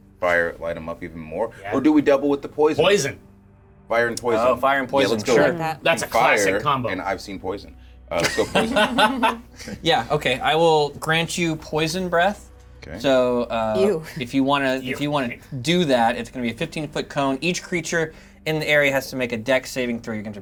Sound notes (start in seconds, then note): 8.2 players laughing